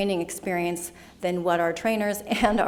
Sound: giggles

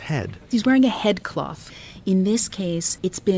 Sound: voiceover

